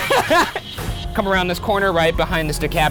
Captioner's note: laughing